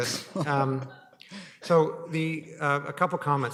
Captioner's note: chuckling